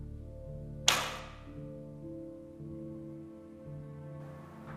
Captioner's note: arrow whooshing